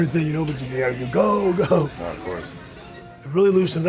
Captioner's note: chuckles